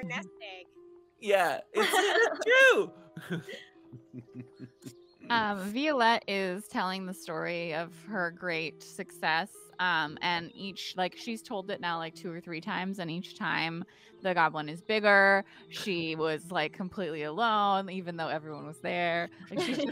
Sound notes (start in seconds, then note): 1.7 laughing